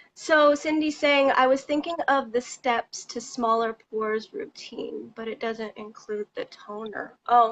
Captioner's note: none